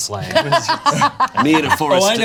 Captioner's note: Bug laughs